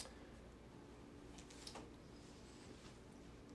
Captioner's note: papers rustling